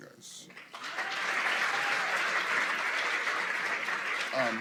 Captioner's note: applause